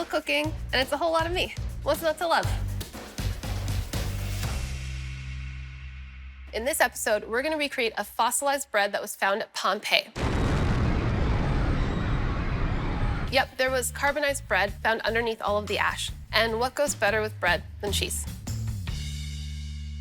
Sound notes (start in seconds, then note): 2.0 upbeat music; 10.2 blasting; 11.4 screaming